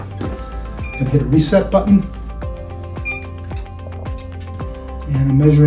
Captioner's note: equipment beeping